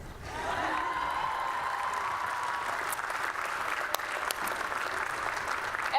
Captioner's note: applause and Cheering